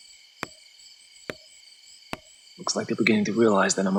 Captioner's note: wood tapping